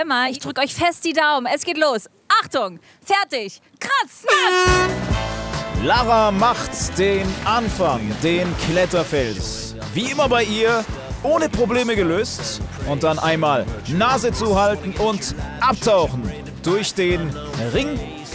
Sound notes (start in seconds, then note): 4.4 Startsignal